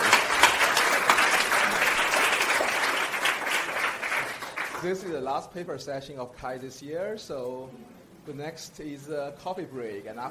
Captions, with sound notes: (audience applauds) This is the last paper session of Chi this year, so the next is coffee break.